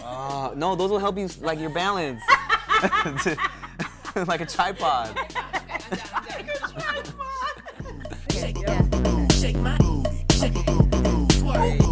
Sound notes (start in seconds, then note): 1.4 laughter